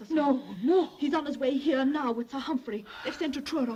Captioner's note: none